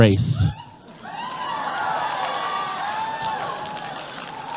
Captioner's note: cheering